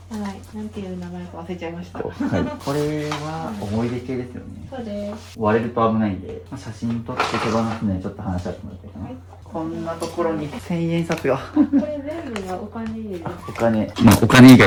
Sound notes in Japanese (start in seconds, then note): 11.2 笑い